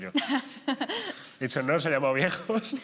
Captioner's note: she laughs